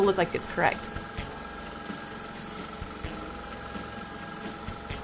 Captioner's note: longarm hums